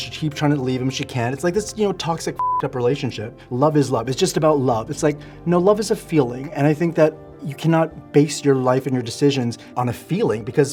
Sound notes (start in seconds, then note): 2.4 beep